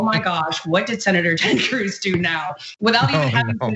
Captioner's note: laugh